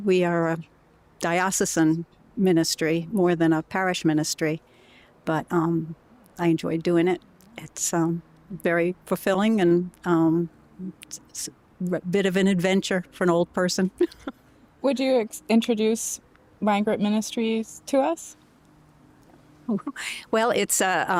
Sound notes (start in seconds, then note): 13.9 laughter